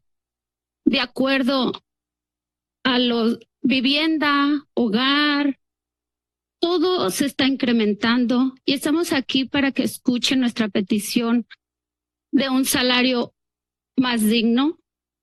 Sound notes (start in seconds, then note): 0.8 speaks in Spanish; 2.9 speaks in Spanish